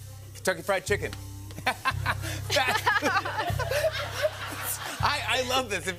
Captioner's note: laughter